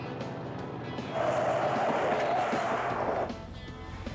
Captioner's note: brakes screech